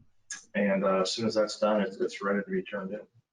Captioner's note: speaking faintly